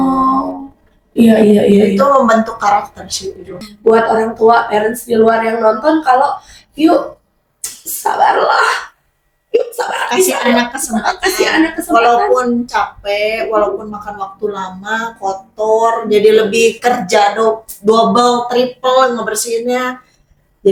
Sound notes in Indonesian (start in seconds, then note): 10.0 tertawa